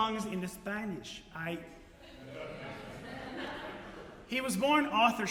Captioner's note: audience Laughter